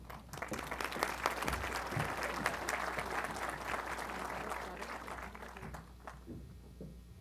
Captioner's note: applause